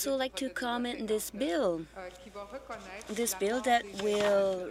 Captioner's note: speaking French